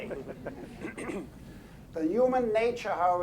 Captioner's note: everyone laughing